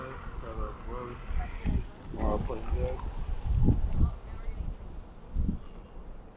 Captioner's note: wind whooshing